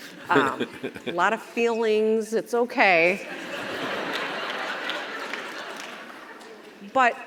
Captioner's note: Chris chuckles; audience laughs